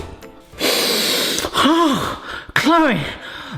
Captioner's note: sniffs